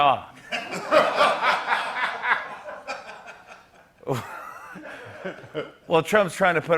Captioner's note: laughter